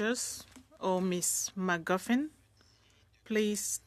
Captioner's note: speaking French